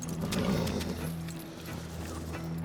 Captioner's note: suspense music; horse blusters; suspense music